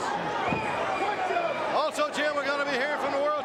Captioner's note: crowd chatter